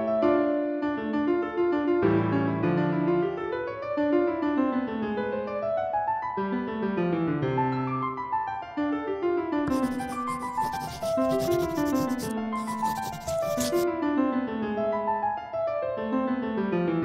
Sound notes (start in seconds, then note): 9.6 pencil writing sounds